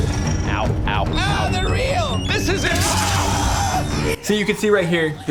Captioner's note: screaming